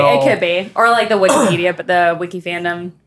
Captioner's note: coughing